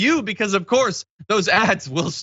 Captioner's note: laugh